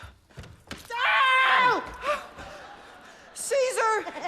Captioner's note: man yells